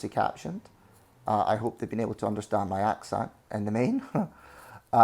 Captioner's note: laughs